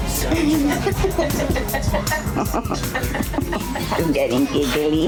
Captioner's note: woman giggling